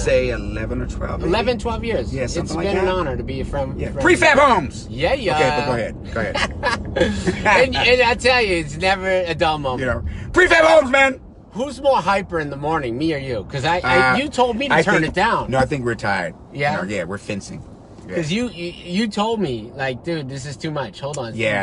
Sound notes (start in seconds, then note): 5.2 driver laughs; 7.5 passenger laughs